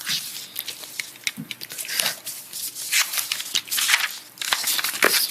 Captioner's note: papers rustling